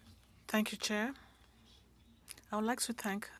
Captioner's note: speaking French